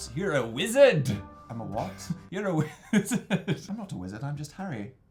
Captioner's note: laughing